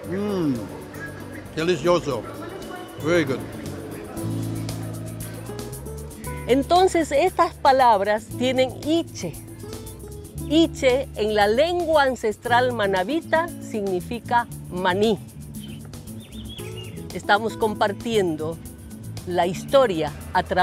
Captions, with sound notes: Mm. Delicioso! Very good. (food historian speaking spanish)